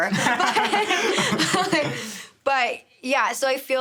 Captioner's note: everyone laughing